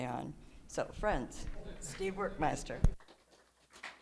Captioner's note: applause